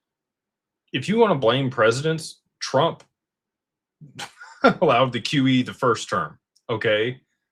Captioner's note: laughter